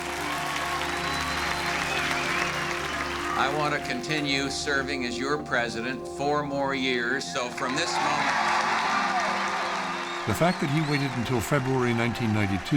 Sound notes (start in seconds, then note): 0.0 applause, cheering and whistling; 7.6 loud cheering and whistling